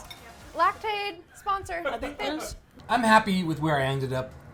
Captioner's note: laughs